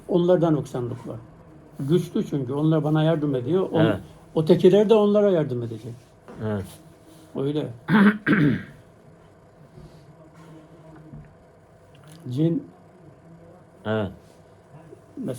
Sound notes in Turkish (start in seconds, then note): 7.8 boğazını temizler